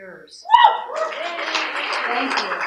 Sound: applause

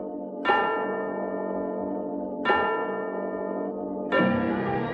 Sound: clock strikes 11

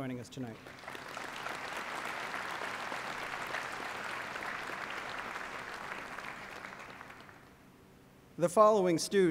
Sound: applause

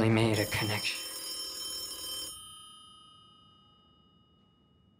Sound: telephone ringing

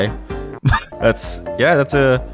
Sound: laughs

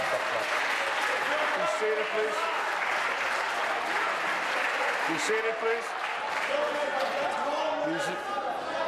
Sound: applause

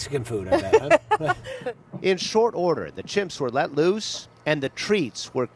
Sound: laughter

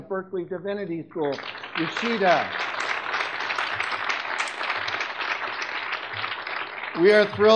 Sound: audience clapping

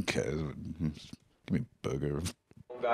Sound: grumbling

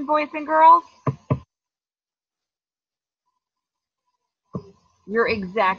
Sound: double tapping laptop

